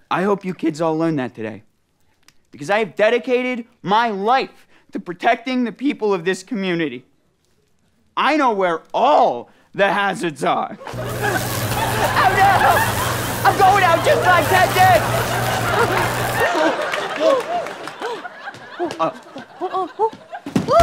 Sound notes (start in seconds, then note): 10.8 zapping; 15.6 audience laughter